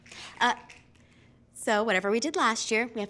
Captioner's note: fingers snapping